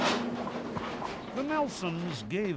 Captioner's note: machinery whirring; pigs snorting